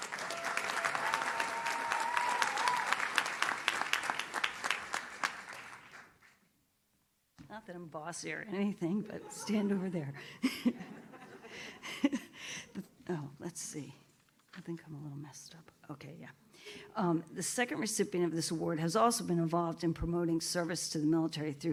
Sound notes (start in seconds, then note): 0.0 audience cheers; 10.1 group laughs